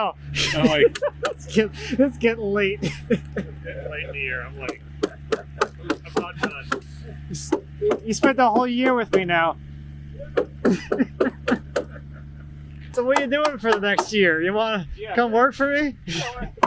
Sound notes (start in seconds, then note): 2.9 man laughing; 7.4 hammer knocking; 10.4 man laughing